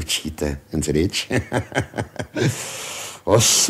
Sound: laughs

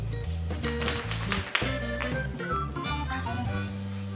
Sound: rattling

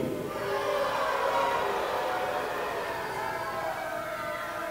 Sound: audience booing

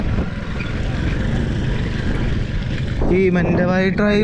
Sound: sound of motor bike passing

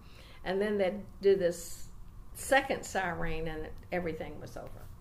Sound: none

